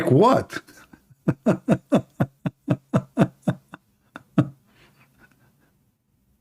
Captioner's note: Ketawa